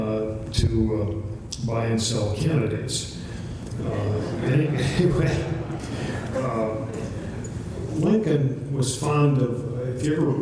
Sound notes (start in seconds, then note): 3.8 chuckles; 3.9 laughter